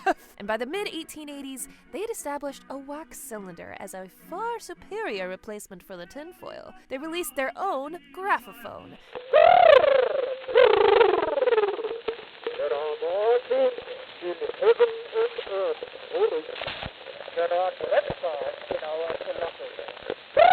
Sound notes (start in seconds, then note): 9.1 trilling; 9.3 bell